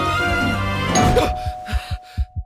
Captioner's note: gasps; doorbell rings; panting